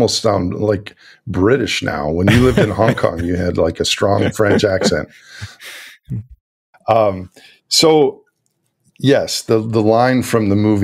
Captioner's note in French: Rires